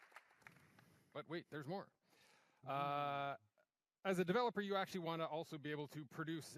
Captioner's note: applause